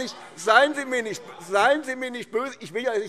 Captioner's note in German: Anhaltende Zurufe